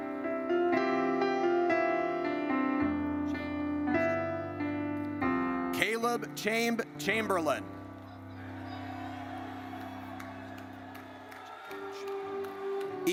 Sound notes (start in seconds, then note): 0.2 gentle music; 8.0 audience cheers